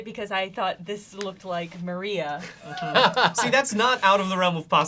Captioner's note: laughs